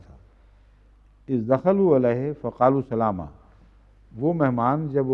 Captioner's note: Arabic